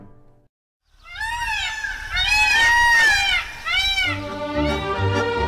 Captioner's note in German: Pfauenschrei